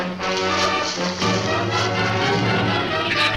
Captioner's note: leaves rustle; shrews chatter